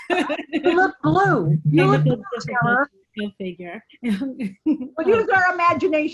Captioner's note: multiple people in meeting laughing; multiple people chattering